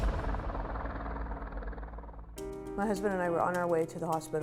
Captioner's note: helicopter blades whirring